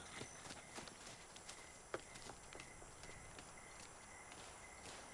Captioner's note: crickets chirping